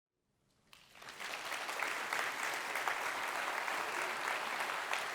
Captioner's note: audience applause